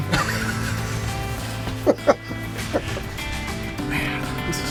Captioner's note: both chuckle